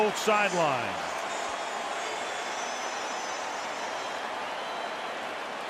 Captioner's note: cheering